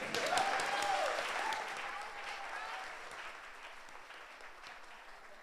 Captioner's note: audience applauds